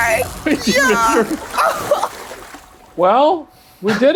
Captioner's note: splashing; laughing